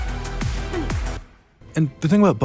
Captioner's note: clears throat